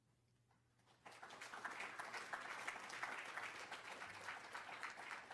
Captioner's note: applause